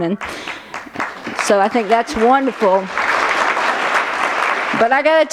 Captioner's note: applause